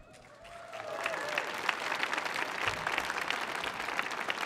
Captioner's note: audience applauding